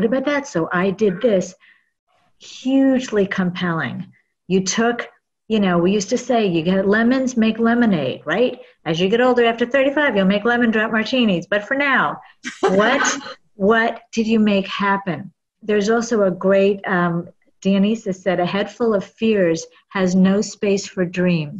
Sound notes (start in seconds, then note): 12.5 laugh